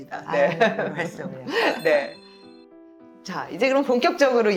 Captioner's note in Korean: 웃음